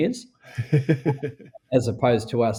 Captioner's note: laughing